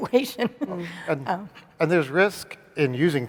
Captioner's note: laughs